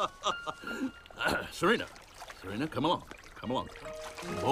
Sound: guffaws; clears throat

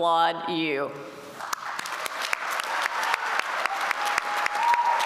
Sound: applause

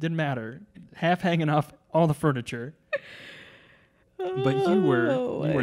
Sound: laughing

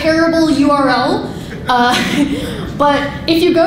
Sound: laughing

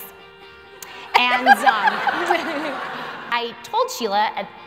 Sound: laughter

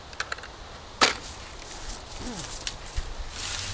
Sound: helmet thuds

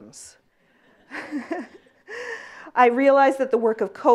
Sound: laughs

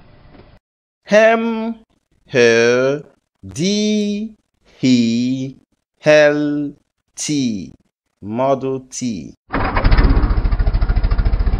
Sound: Model T Sound

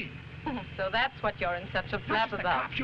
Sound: Raina chuckling

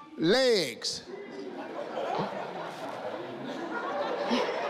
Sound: crowd laughs

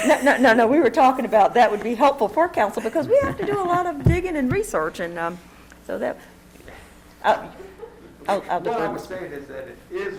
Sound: laughter

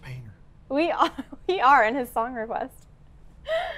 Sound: laughs

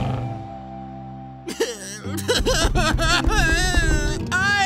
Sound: sobbing

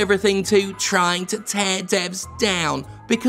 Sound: mocking

